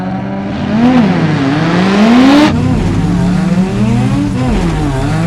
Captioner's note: engines roaring